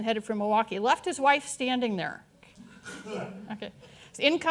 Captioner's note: audience chuckling